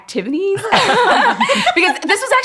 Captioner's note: everyone laughing